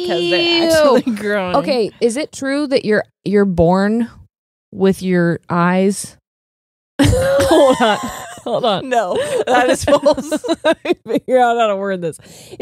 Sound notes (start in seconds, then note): 7.0 both laughing